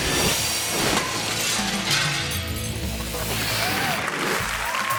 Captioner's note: upbeat music; title whooshes; glass shattering; audience claps and cheers